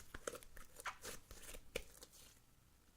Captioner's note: slime ASMR Sounds